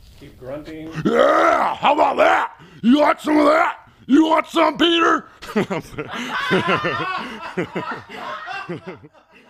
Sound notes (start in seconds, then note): 5.4 laughter